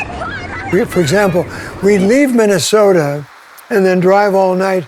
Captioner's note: kids yelling